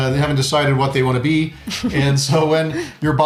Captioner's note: laughing